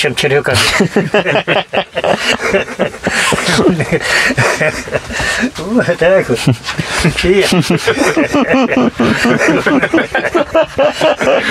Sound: laughter

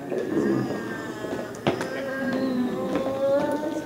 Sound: growling

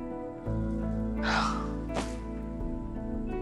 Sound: sighs

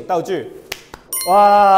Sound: clap

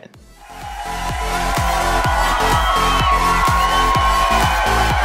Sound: audience cheering

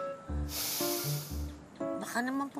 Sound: David sighs

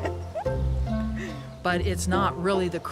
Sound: laughs

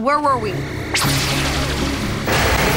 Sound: laser shooting

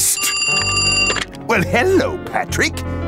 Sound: phone ringing

